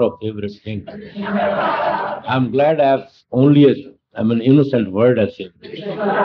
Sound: laughter

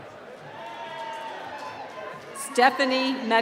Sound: cheering

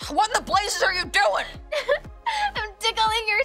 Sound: laughing

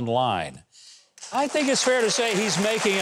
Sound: audience applauding

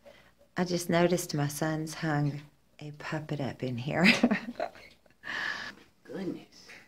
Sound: laughter

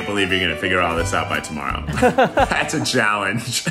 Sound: both laughing

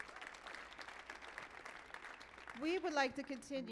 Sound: audience applauding

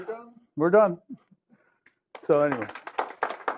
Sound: applause

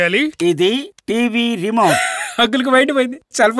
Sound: laughs

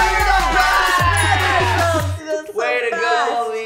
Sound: all cheering; bling

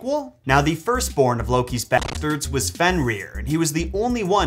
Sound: static

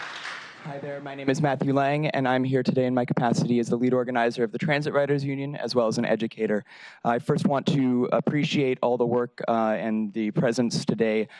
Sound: applause

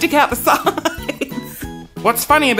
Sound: giggles

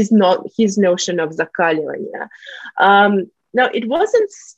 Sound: russian

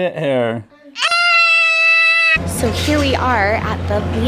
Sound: yelling

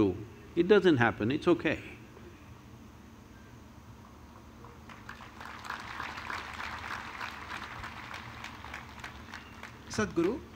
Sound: applause

